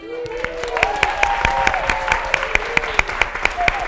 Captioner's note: all applauding